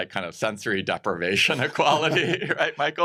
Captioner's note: chuckles